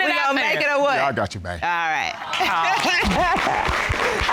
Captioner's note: audience cheers, applauds; laughs